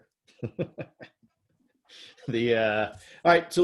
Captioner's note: laughs